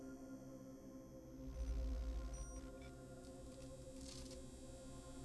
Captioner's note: digital whirring and beeping